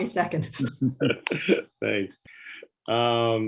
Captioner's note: laughs